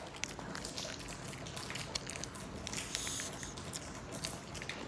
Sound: dog chew nom nom

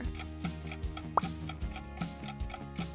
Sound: timer ticking; pop

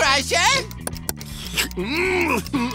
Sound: grunting

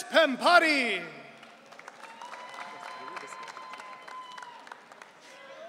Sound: audience cheering

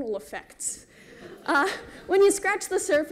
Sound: laughter

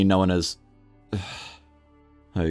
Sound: sigh

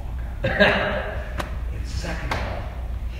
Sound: laughing

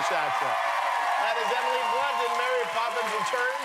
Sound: cheers and applause

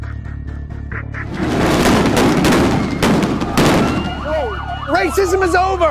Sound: bombs exploding

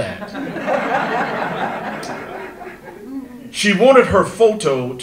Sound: audience laughter

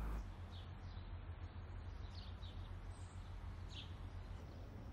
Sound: birds chirping

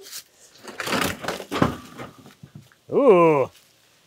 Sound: wood slab thuds

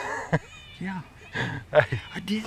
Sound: chuckling

